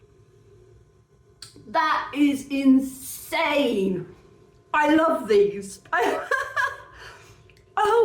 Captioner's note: laughing